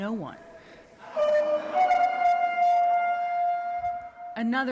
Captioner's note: shouting